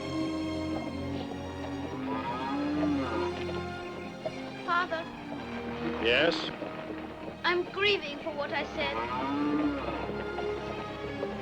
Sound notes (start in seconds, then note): 1.6 cattle lowing; 8.6 cow moos